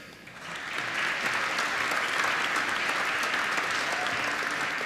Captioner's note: applause